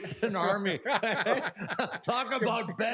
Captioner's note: laughter